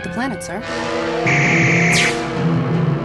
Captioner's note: phaser fire